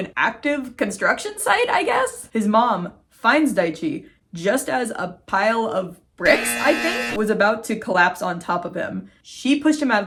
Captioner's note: loud buzzer sound